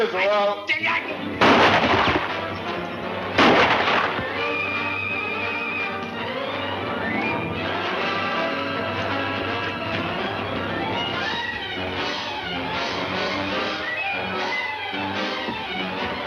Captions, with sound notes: your telling me where Larry Munro is or I'll. (gun shots) (upbeat music)